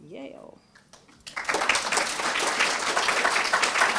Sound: applause

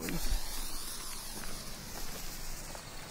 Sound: hissing

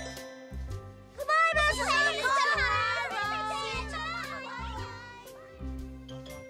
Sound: all saying good-byes

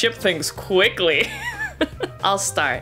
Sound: laughs

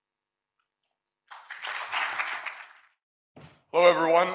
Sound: audience applauds

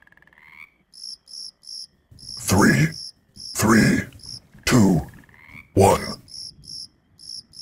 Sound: croaking

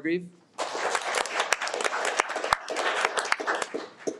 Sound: audience applauding

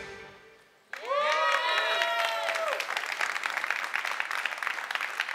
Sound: applause

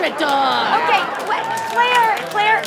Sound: audience laughter

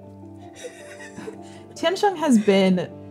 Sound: laughing

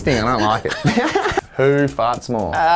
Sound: laughing

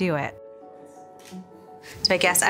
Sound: camera clicks

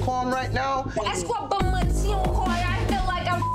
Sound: speaking in foreign language; beep

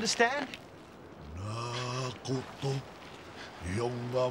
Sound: non-english speech

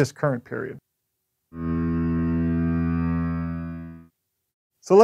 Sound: ship horn blowing

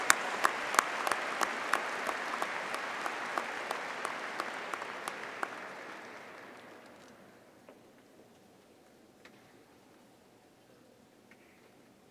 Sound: applause

